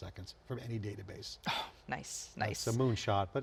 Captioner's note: sighing